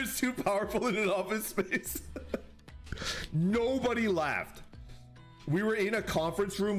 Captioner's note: laughs